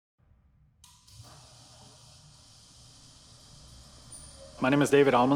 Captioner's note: garage door being opened